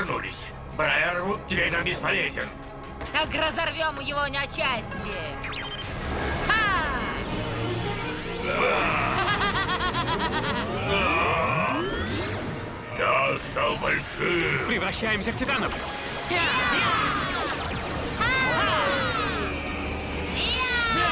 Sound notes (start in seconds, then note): 5.3 beep; 8.4 roars